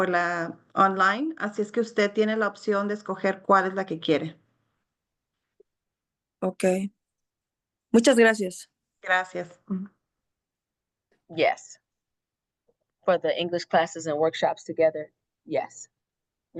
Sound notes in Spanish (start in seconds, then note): 7.6 habla en español; 9.0 hablando en español